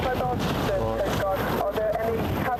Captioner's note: coastguard radio caller